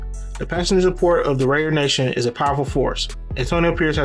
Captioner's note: voiceover